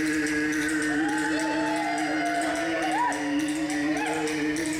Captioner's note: audience cheers